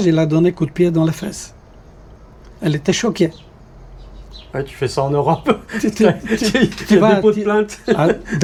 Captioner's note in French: rires